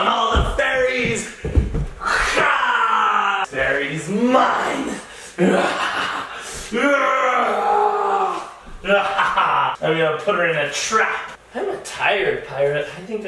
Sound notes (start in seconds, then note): 2.7 battle cry; 5.3 maniacal laughter